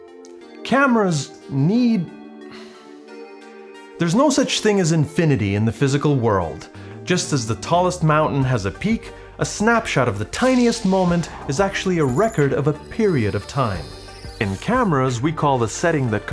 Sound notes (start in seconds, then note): 2.5 exhales